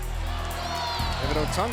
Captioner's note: crowd chatter